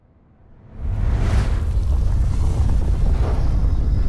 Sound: light rumbles

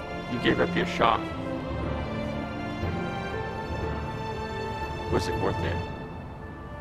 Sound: none

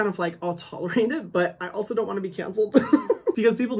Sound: chuckles

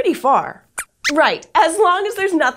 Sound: squeaks squeaks

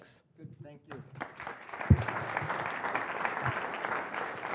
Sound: applause

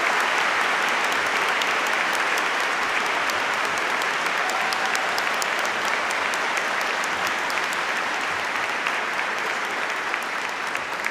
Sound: applause

